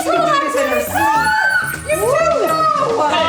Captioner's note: screams